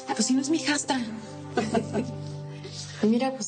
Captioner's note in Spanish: Risas